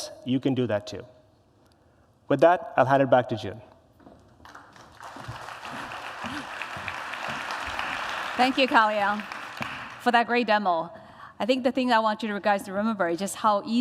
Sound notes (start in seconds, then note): 4.4 applause